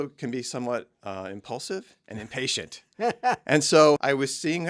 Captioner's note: laughs